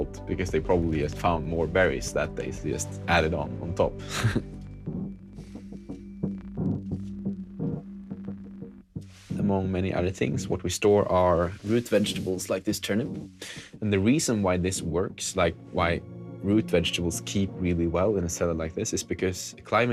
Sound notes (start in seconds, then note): 4.0 chuckles